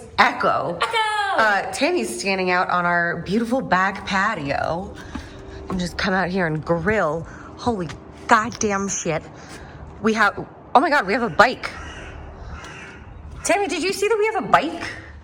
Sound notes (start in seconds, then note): 0.1 hoots